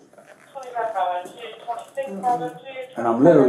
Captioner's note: radio chatter